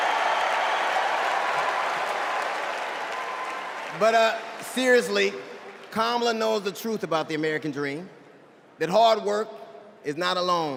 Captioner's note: applause